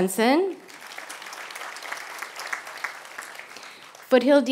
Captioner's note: applause